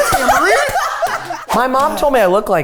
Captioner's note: everyone laughs